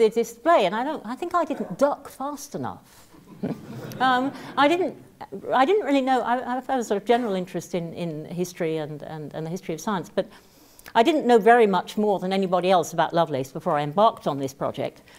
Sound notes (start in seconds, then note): 3.2 laugh